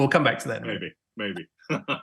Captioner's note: laugh